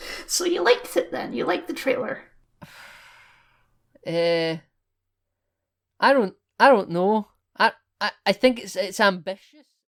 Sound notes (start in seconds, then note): 2.6 sigh